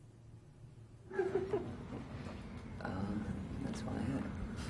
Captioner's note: reporters laughing